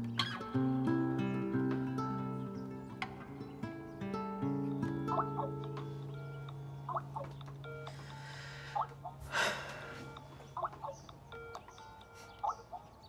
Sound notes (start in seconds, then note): 5.0 internet phone rings; 9.2 Sam sighs